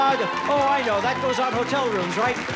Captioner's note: applause and laughter